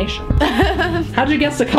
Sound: laughs

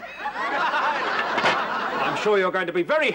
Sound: audience laughs

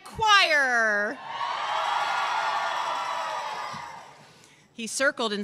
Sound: cheers

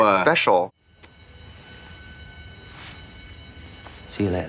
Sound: school bell ringing

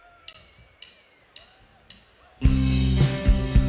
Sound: cheering

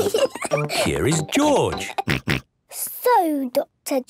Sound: snort

